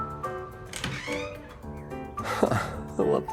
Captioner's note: bathroom door opens